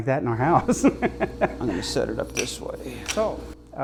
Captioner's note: laughs